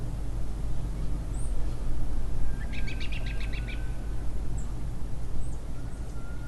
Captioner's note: birds chirping